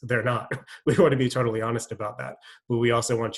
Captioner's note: chuckles